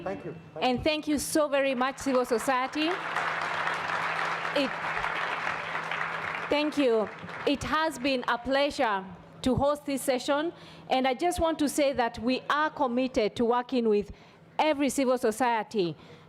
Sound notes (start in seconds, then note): 4.7 audience applauds